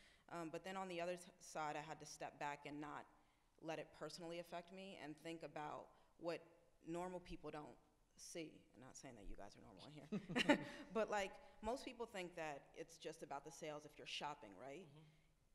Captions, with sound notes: But then on the other side, I had to step back and not let it personally affect me and think about what normal people don't see. I'm not saying that you guys are normal here. [laughs] But, like, most people think that it's just about the sales if you're shopping, right?